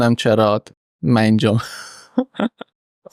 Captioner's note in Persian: خنده